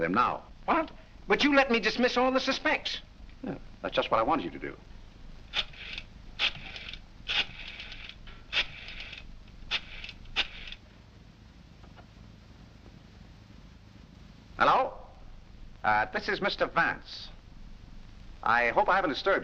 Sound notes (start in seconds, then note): 5.5 rotary whirring